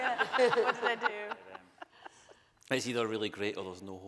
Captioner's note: audience laughing